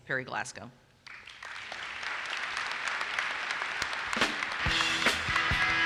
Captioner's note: audience applauses